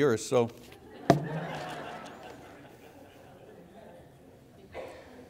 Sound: congregation laughing

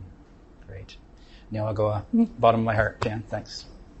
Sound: non-english speech

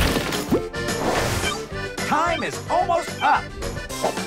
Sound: beeps

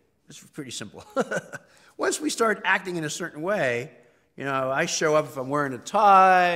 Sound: laugh

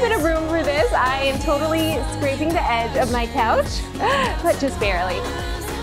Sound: laughs

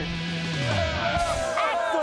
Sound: crowd cheering

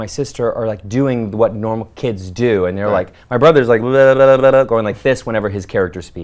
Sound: blows raspberries

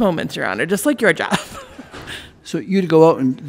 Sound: laughs

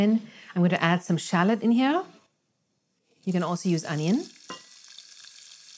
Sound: pan sizzling

